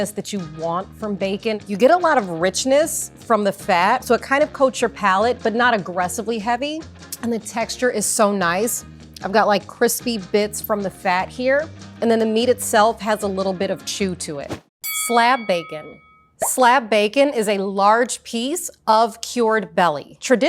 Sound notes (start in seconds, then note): 7.0 upbeat music; 14.8 bell rings